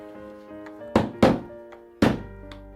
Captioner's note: hammering sound